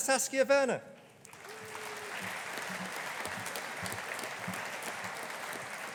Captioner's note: audience applauding